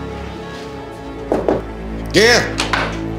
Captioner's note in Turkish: kapı vurulur